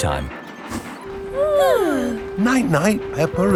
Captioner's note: both yawning